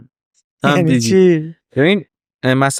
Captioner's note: laughs